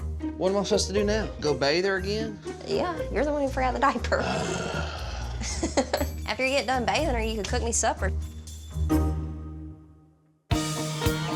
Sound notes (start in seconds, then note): 4.2 groans